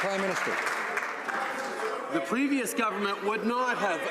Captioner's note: some Applause